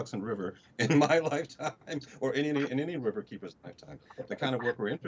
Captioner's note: chuckles